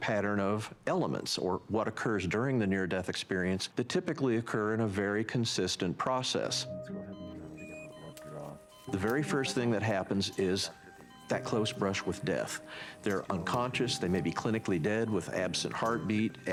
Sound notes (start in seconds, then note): 6.9 backround conversation; 6.9 medical equipment beeping